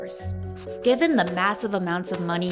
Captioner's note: bills thudding